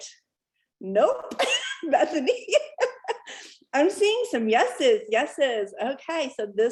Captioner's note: laughter